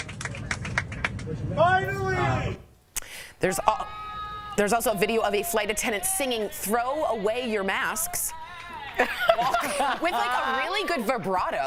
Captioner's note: applause